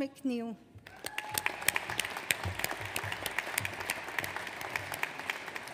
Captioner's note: audience applauds